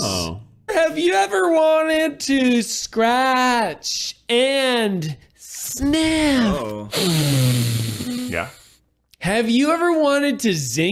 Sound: inhales

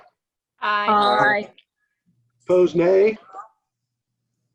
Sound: silence

